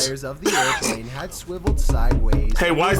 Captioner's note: laughs; table thumps